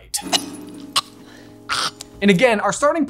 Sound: woman choking

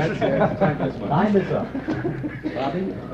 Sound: laughter

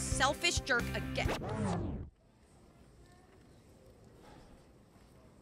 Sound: record scratches

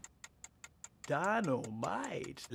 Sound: timer ticking

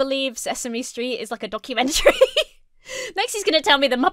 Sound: laughs

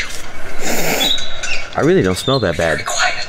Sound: sniff

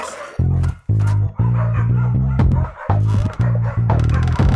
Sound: dogs barking

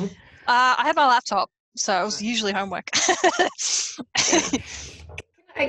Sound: laughs

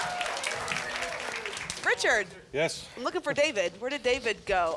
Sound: applause and cheering

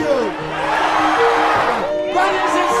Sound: crowd cheering; light music

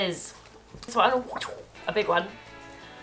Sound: "ninja" noise

